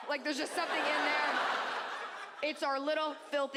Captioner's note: audience laughs